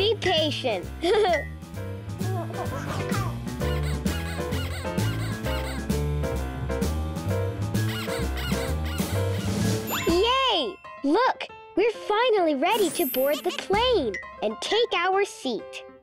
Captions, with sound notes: Be patient! (laughs) (baby laughs) (squeaking) (relaxed music) (squeaking) Yay! Look, we're finally ready to board the plane and take our seat.